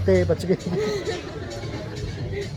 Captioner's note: laugh